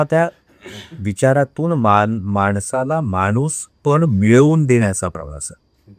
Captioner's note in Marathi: घसा साफ करणे